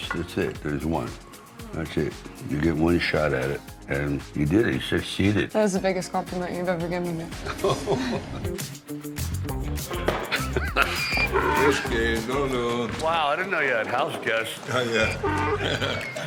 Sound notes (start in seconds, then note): 7.4 Sylvester laughing; 9.4 upbeat music; 10.2 Sylvester laughing; 10.6 donkey braying; 14.5 Arnold laughing